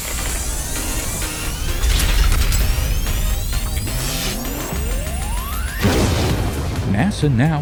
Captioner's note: sound Effects